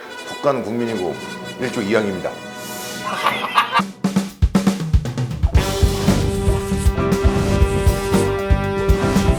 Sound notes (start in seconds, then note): 3.0 hahahahahaha